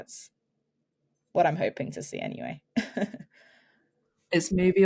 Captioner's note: chuckles